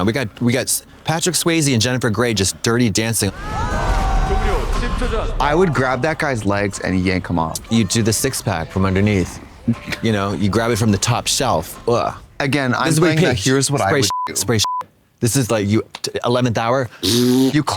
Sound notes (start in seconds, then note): 14.6 beep